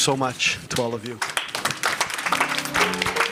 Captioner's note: applause